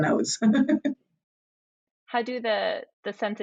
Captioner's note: laughs